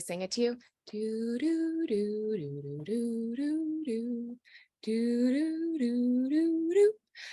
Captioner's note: hums "Jeopardy" theme song